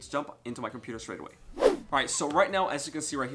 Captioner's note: whoosh